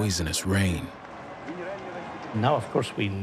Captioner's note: cheering